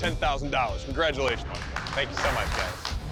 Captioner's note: applause